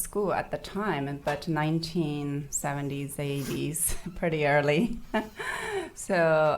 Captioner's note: laughing